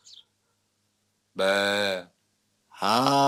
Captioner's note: baa